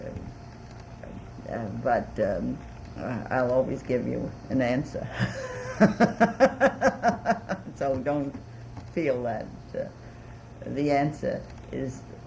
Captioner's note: laughs